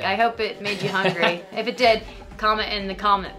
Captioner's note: laughs